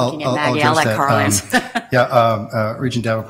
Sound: laughing

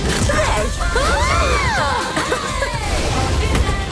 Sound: both scream; thunder crashes

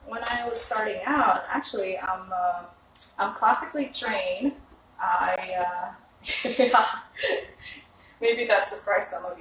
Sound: laughs

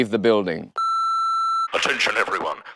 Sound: intercom beeps

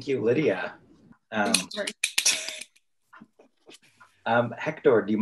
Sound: panelists clapping

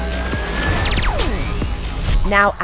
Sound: laser beam

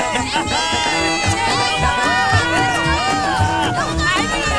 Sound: cheers

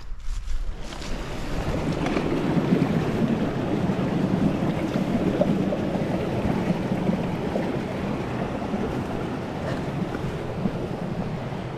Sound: rushing water

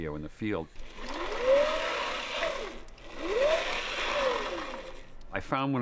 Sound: whirring

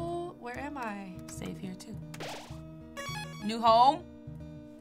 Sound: mellow acoustic music; save chime

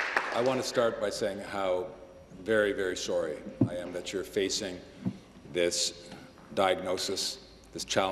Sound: applause

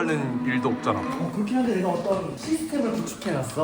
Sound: rambling

